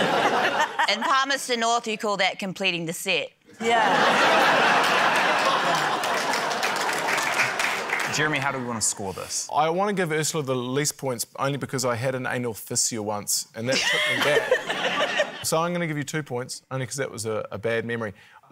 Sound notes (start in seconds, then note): 3.6 laughter, applause